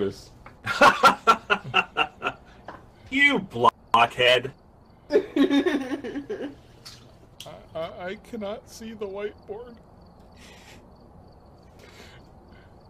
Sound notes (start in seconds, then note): 0.6 laughs; 5.1 laughs